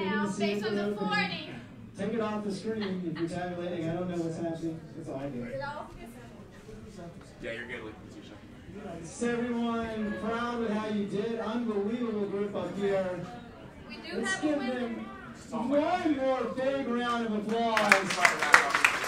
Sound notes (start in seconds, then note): 7.2 chattering; 17.4 applauding